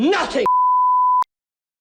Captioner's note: bars and tone